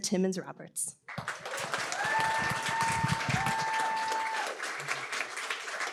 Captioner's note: applause, cheering